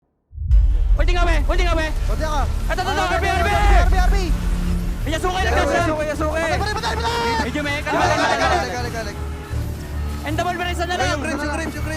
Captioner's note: shot-calling in the background